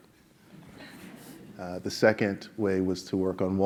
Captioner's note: laugh